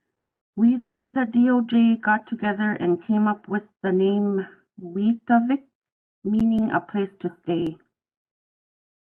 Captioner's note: speaking in native language